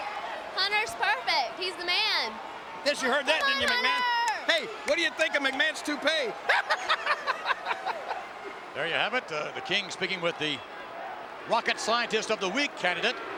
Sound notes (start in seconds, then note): 7.9 cackling